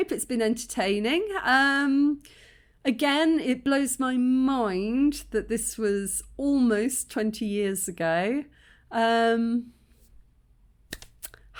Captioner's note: kiss